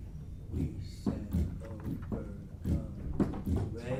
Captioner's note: table drumming